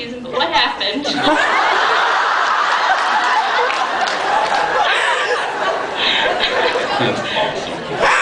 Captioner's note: laughs